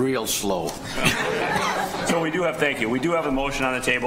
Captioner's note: people laughing